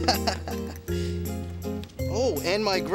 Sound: laughing

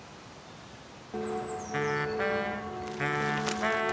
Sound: church clock

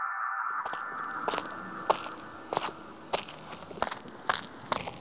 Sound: person walking

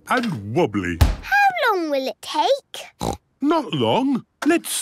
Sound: snorts

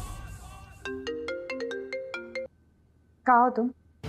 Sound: phone ringing

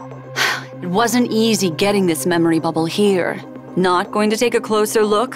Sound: sigh

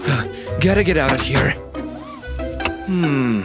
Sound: grunting

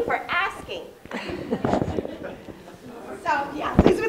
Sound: audience laughing

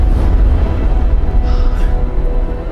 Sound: panting

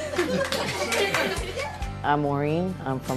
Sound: clapping

